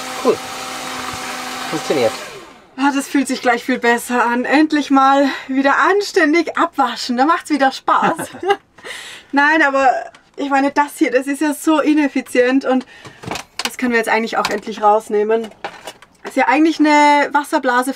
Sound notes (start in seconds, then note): 8.0 laughter